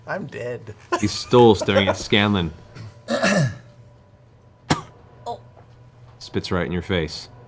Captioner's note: spits